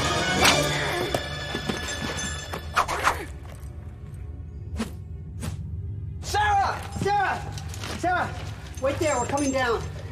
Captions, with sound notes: [rope breaking] - [moans] [rope swooshing] - Sara! - Sara! Sara! Wait there, we're coming down!